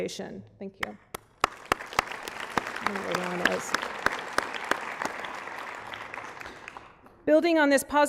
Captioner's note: applause